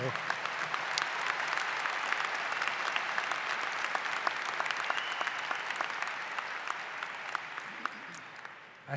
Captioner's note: applause